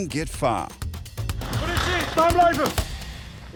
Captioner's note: man shouts in dutch